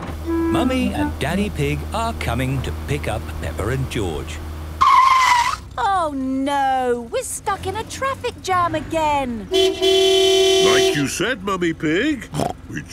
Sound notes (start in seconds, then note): 5.0 tires screeching; 9.5 honking